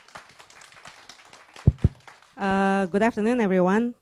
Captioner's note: audience applauding